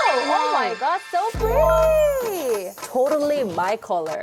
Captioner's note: transformation sound effect